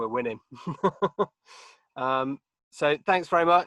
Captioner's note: chuckling